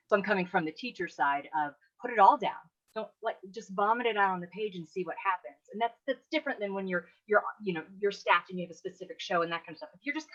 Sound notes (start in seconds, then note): none